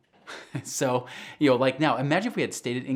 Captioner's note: chuckles